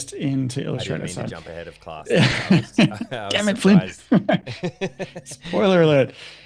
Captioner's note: laughter